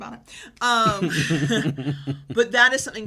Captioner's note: laughs